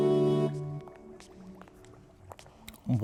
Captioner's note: footsteps and liquid bubbling